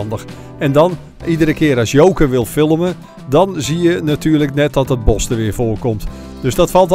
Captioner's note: voiceover